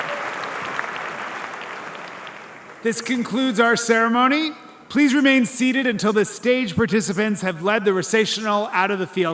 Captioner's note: applause